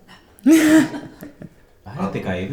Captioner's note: laughs